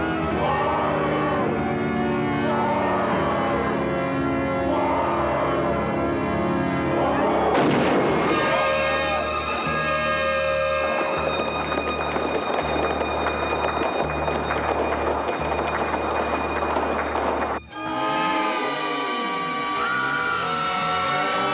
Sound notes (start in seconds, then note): 7.5 gunshot; 11.0 applause; 17.5 screams